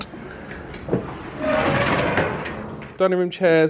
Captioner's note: hinges creak